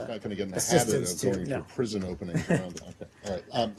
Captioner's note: laughing